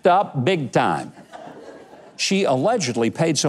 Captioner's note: audience laughs